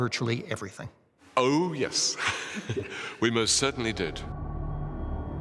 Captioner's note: laughs